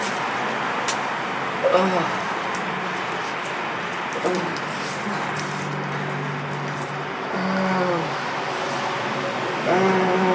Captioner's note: pain Sounds